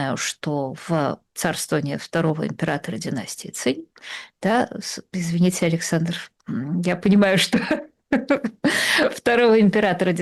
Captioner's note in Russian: смех